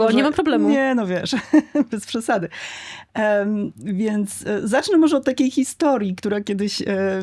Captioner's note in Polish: śmiech